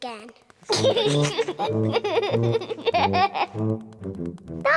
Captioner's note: giggling